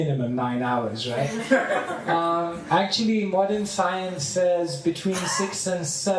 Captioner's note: laughter